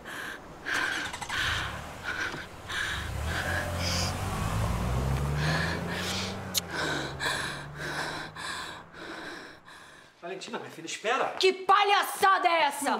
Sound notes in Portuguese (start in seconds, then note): 0.4 som de carro ligando; 6.8 luiza suspirando